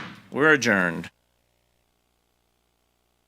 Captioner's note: gavel bangs